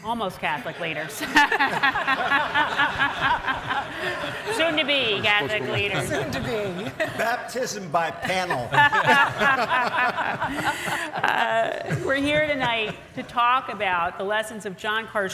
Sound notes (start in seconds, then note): 2.3 audience laughs; 8.2 all laughs